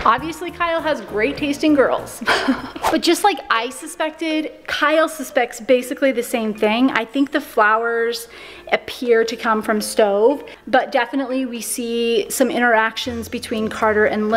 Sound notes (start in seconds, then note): 2.2 laughs